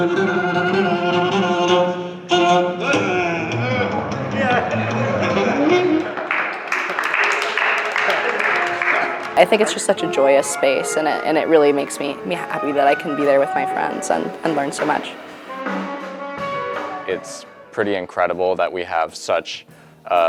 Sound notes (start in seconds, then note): 6.0 clapping